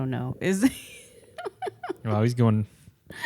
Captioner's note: laughs